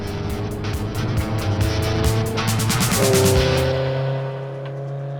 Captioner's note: engine roars